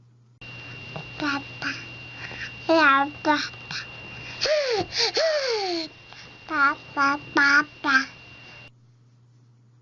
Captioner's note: baby makes babbling noises, such as "ba ba ba"